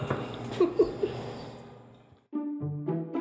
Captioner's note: giggling